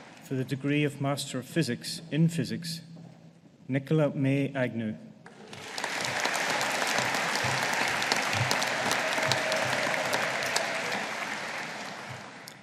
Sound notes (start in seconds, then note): 5.2 audience applauding